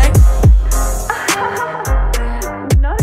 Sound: laughing

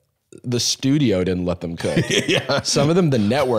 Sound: laughs

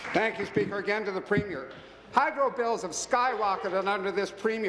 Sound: applause

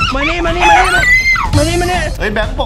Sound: screams

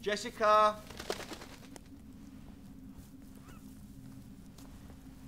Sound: bird flutters

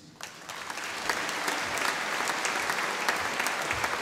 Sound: audience applauding

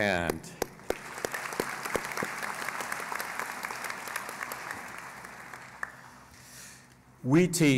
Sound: applause

